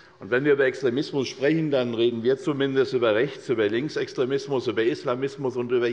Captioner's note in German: none